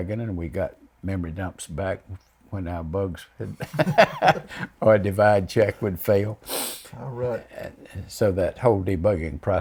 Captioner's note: laughs